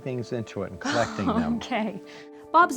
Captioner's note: laughing